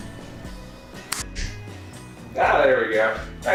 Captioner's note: finger clicks